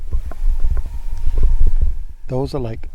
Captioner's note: wolf howls